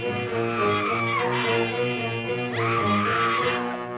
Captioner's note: screaming